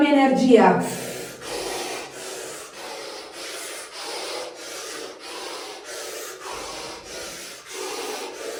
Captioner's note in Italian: sbuffare